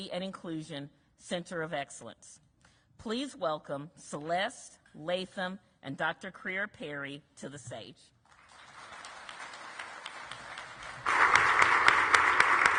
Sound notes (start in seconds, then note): 8.2 audience clapping